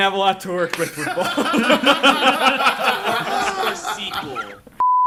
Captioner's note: group laughs